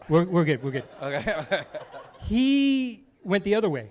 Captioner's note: laughs